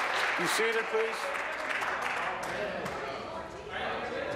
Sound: applause

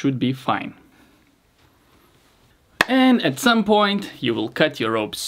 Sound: hands clap

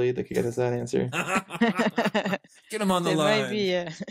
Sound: laughing

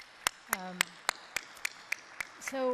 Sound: applause

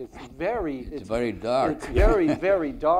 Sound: laughs

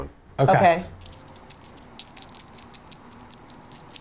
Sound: small metal items jingling; small metal item jingling

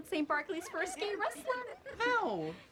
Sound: girls giggling

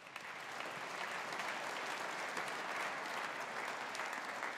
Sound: audience applauding

